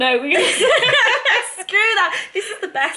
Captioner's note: laughing